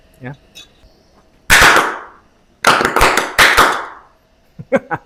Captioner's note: hydrogen popping sound; laughter